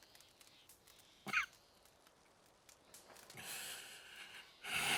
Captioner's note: Arthur coughs and sighs